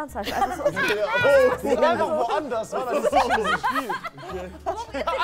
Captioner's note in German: Lachen, Durcheinanderreden